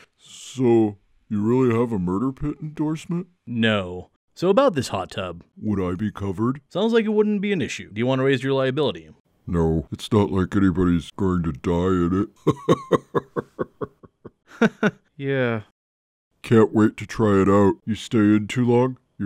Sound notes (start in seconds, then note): 12.3 fake laugh; 12.4 laughs menacingly